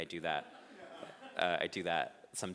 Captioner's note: audience laughing